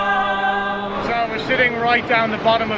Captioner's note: water flowing